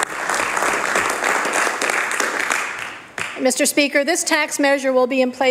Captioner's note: applause